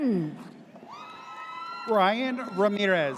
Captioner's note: audience cheers